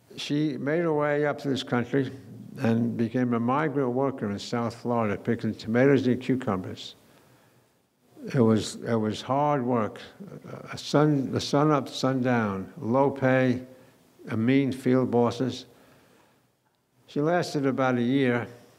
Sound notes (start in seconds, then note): none